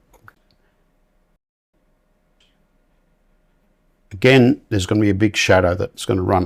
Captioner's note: silence